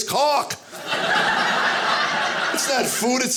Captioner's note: audience laughing